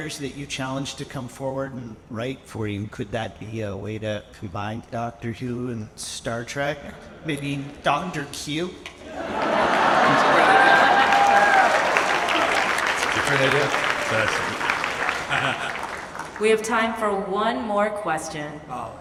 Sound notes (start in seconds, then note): 9.0 audience laughs; 12.0 audience applauds and cheers; 13.1 laughs